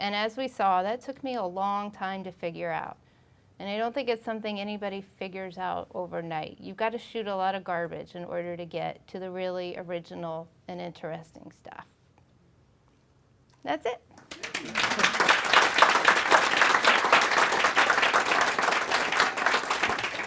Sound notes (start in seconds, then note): 14.2 applauding